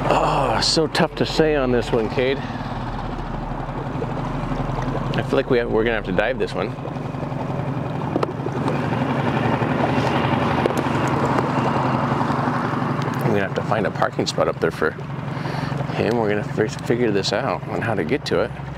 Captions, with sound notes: Oh, so tough to say on this one, Kade. I feel like we're gonna have to dive this one. (motor rustling) I'm gonna have to find a parking spot up there for him. We're gonna figure this out on how to get to it.